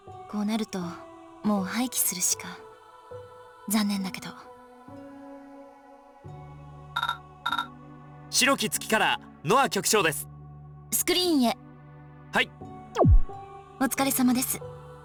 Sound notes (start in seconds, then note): 6.1 silence